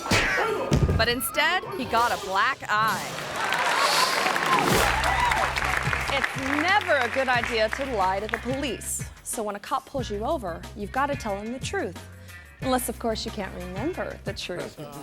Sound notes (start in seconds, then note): 0.0 body thuds; 0.0 foot thuds; 2.9 audience cheering